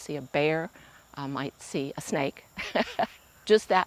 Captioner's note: laughing